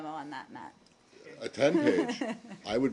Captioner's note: laughter